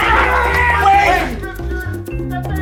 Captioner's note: groans